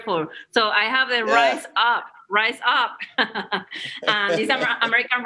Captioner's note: laughs